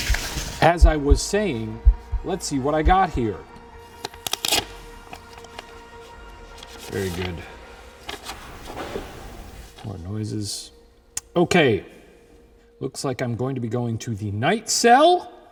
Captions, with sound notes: As I was saying, let's see what I got here. (paper rips) Very good. (paper rustles) (object clanks) More noises. Okay, looks like I'm going to be going to the night cell.